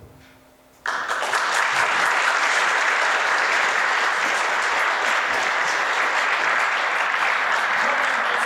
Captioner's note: applause